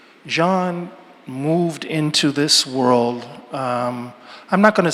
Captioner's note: none